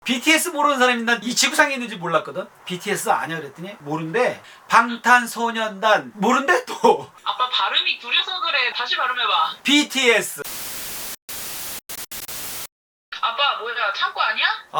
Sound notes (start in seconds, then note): 4.8 Korean